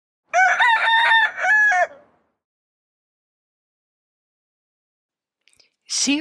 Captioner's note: rooster crowing